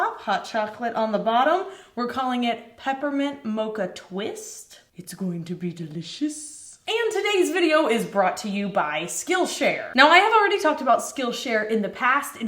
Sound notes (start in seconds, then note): none